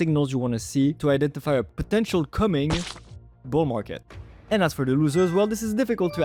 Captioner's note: spurt